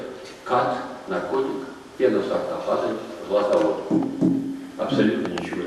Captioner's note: knocks on the table